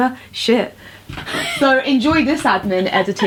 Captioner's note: laughs